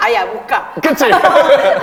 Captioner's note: laughter